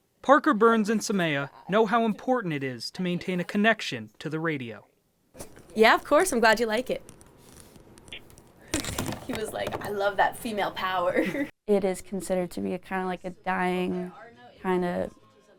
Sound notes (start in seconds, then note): 11.1 chuckles